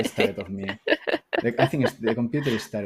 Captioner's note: laughing